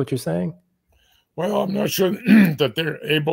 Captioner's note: cough